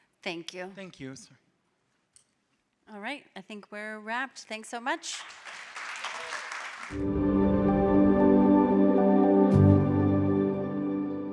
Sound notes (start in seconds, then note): 5.1 audience applauding; 7.0 gentle music